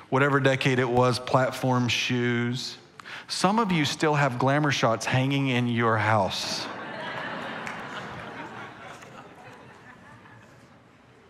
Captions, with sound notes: whatever decade it was, platform shoes. Some of you still have glamour shots hanging in your house. (congregation laughing)